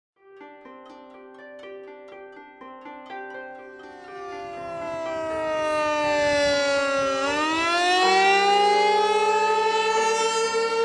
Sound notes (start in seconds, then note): 0.5 gentle music; 3.7 loud sirens